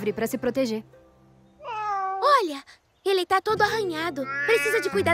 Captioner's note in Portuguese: filhote miando; filhote miando